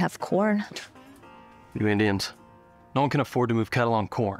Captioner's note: scoffs